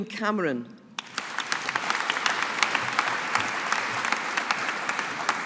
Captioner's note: audience applauding